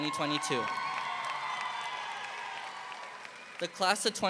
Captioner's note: audience applauding